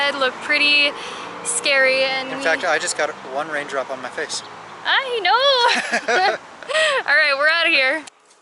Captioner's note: laughter